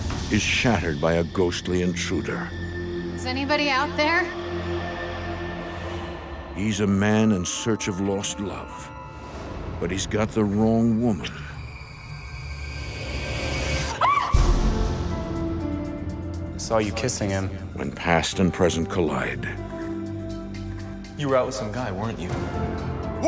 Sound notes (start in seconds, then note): 11.4 eerie music; 14.0 woman yelps